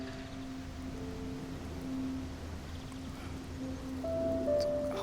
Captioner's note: birds chirping; sentimental music